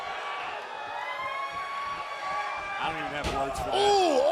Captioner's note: cheers and applause